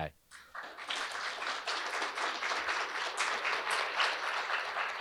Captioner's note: audience applauding